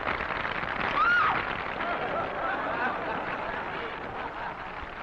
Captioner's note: woman screaming